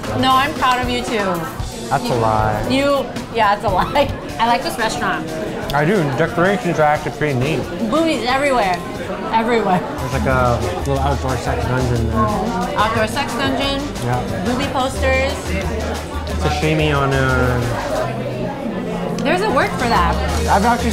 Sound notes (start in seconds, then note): 4.1 laughs